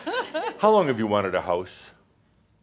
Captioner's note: she chuckles